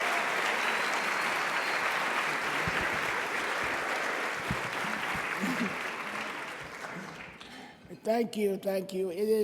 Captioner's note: applause